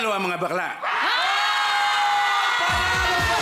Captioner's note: crowd screaming